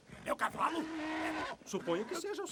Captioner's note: horse moans